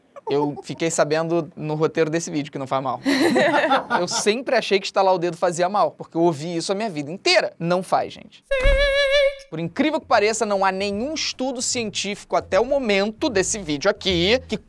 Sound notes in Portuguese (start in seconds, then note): 3.0 risadas